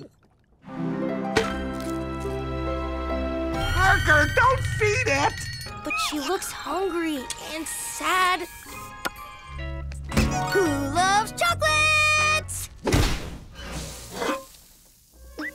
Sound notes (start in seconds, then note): none